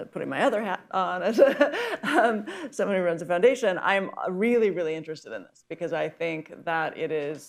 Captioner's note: laughs